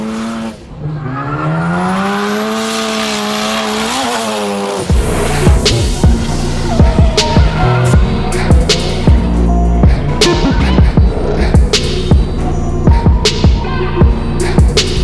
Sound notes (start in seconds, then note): 0.2 engine revs; 6.9 tires squealing; 9.7 hip hop music